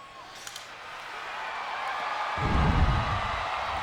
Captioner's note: crowd cheering